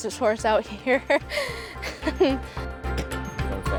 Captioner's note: chuckles